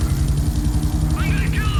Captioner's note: plane engine roaring